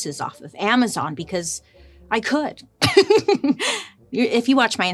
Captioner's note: laughs